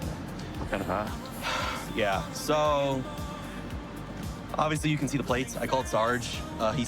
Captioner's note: sighs